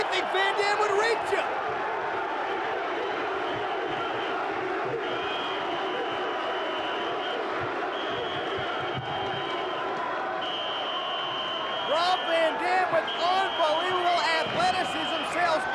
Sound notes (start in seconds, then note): 2.8 crowd chanting; 2.8 whistle blowing